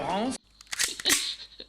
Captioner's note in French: bruit de recharge pistolet